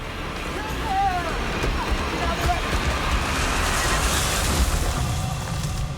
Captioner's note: tree falling